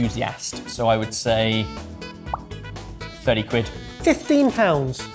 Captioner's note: lips popping